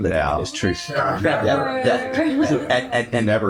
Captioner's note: laughs